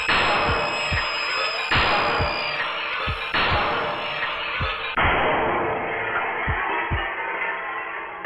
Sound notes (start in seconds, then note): 0.6 horrible scream